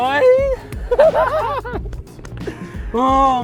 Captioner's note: both laughing